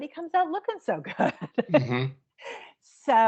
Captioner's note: chuckling